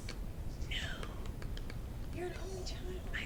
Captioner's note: whispers